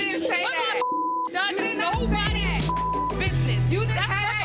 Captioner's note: beep